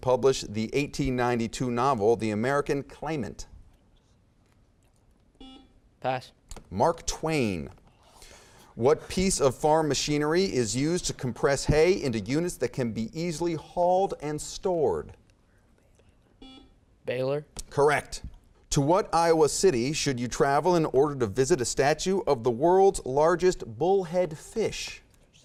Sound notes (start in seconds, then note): 5.4 beeping; 15.7 whispering; 16.4 beeping